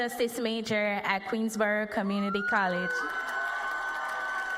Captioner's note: cheers and applause